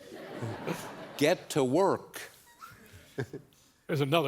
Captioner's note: laughter